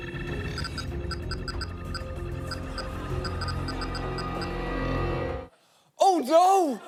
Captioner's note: computer beeping